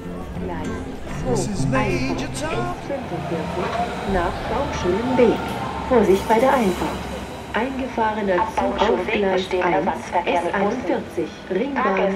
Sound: loudspeaker announcements

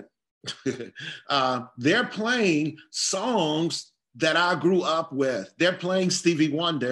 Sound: laugh

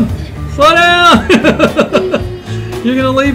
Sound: laughing

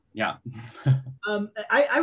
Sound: laughs

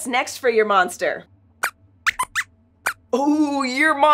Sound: squeaks squeaks

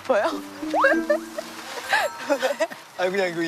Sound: he can't stop laughing

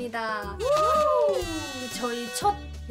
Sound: ALPHAZ, scream~!

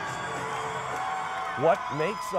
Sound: cheering

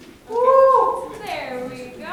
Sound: man cheering

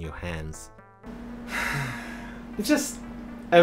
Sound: relaxed sigh

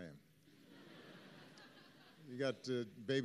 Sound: laughter

